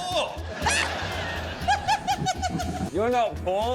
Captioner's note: laughs